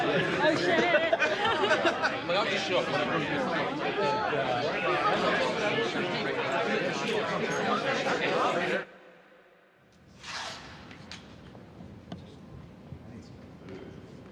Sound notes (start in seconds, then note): 1.9 laughing; 3.2 overlapping chatter